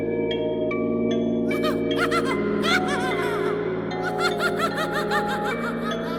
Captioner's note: clown laughing maniacally